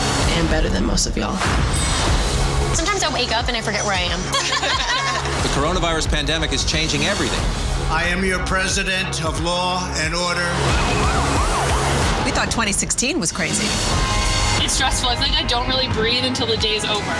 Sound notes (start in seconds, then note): 4.2 laughter; 10.6 sirens blaring